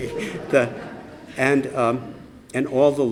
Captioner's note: laughter